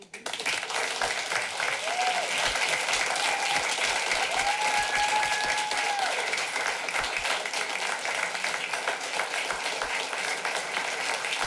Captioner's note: clapping